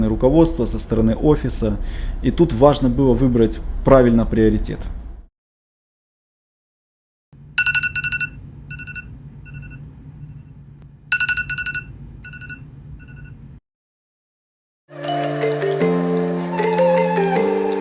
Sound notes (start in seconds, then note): 7.6 sound of Alarm Clock